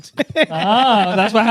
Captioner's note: laughing